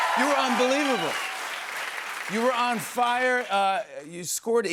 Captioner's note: cheers and applause